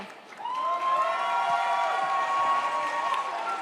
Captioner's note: audience cheers